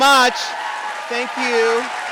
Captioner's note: audience applauding